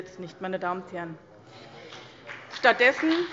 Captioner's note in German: Beifall bei dem BÜNDNIS 90/DIE GRÜNEN und der CDU